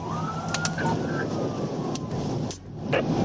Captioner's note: sirens wailing